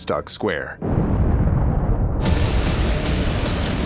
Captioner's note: explosion; suspenseful music